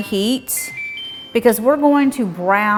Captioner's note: hot plate beeping